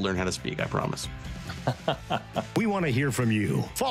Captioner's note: laughs